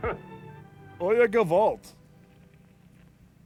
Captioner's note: speaks Yiddish